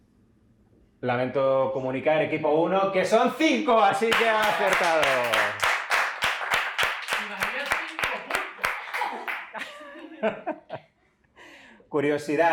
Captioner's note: applause